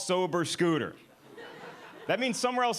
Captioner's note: audience laughing